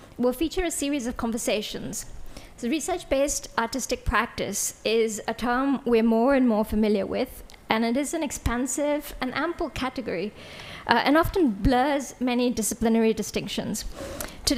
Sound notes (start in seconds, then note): none